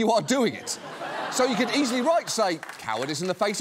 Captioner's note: laughter